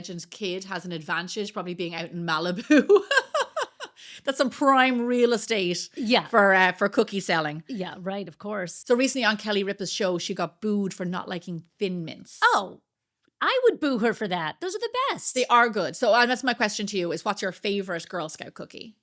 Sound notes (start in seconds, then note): 2.6 laughs